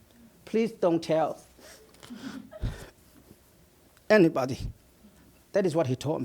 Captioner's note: sniffles